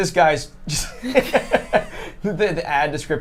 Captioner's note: chuckles